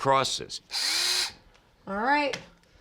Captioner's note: drilling